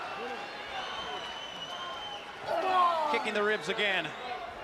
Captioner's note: crowd chatter